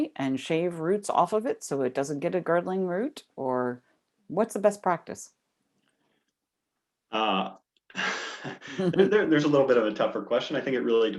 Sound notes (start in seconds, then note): 7.9 chuckles